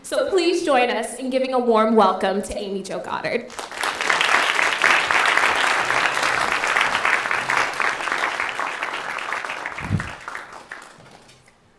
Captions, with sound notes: So please join us in giving a warm welcome to Amy Jo Goddard. [APPLAUSE]